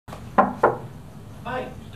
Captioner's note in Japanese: ノック音